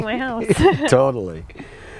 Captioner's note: laughs